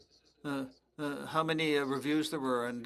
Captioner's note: speaking French